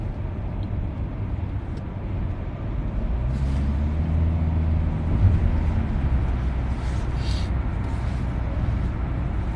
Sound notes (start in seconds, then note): 3.1 vRrrrOOoooM